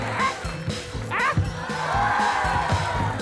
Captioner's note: audience exclaims